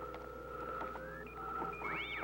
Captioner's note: beeping